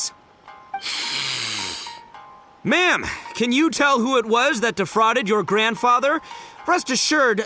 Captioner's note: clears throat